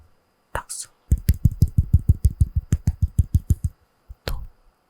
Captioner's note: gentle clap